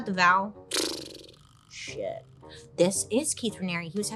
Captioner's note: exhales